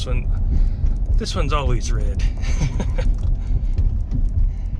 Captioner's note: laughing